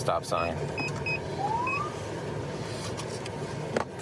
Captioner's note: siren chirps